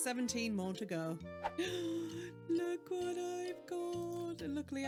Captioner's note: gasp